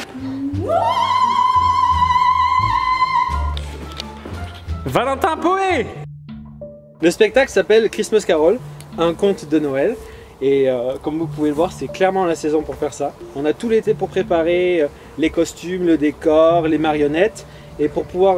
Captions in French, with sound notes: *Cri strident mais un peu harmonieux* Valentin Poey le spectacle s'appelle "A christmas carol" un conte de noël et comme vous pouvez voir c'est clairement la saison pour faire ça on a tout l'été pour préparer les costumes le décor les marionnettes et pour pouvoir